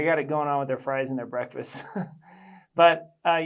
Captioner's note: laughs